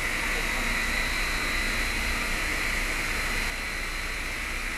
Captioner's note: machine hovering